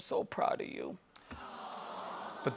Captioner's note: audience "Awws"